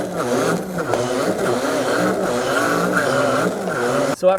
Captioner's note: blender whirring